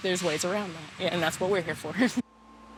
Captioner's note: chuckling